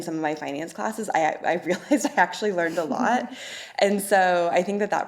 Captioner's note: laughs